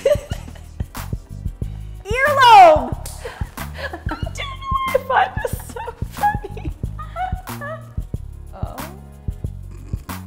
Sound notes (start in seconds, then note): 0.0 laughter, once again; 5.4 dying of laughter